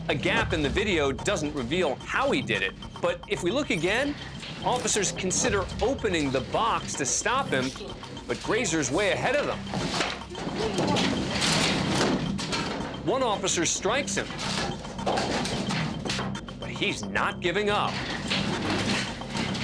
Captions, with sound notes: A gap in the video doesn't reveal how he did it, but if we look again, officers consider opening the box to stop him, but Greyser is way ahead of them. [clattering] One officer strikes him, but he's not giving up.